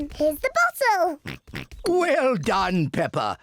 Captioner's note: oinks; oinks